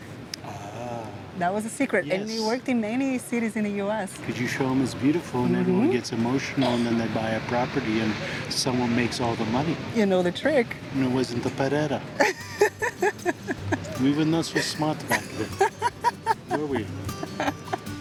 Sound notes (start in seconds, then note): 12.2 laughs